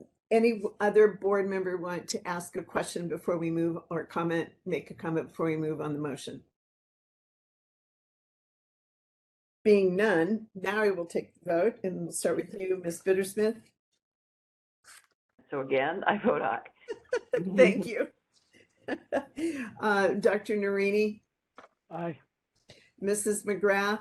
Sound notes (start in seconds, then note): 16.7 laughing